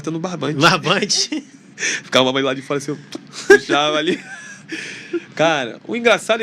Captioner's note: risadas